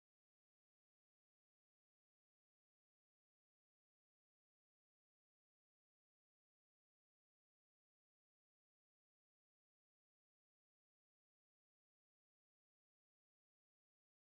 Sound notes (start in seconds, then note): none